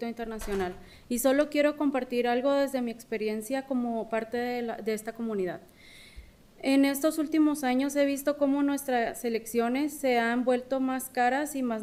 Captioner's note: speaking spanish